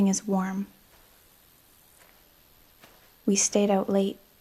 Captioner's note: footsteps pattering